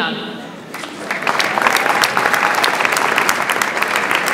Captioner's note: audience applauds